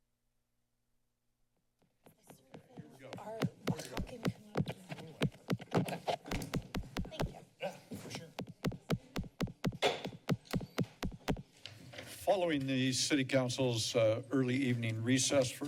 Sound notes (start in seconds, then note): 0.0 silence; 3.9 background chatter; 3.9 mic noise; 8.9 mic noise